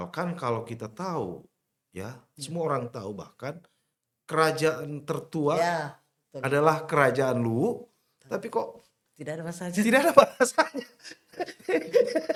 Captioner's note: laughs